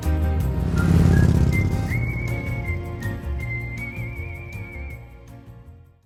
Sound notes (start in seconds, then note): 1.7 motorbike roaring